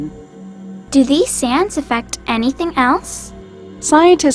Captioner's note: voiceover